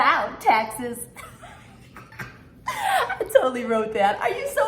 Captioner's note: laughing